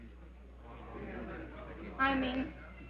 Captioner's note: crowd murmuring